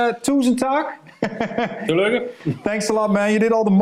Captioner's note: speaks in Danish; speaking in Danish